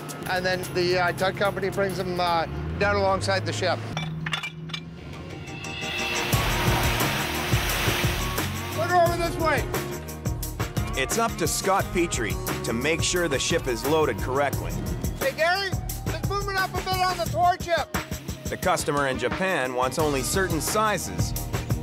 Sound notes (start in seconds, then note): 3.9 metal clanging; 5.9 water splashes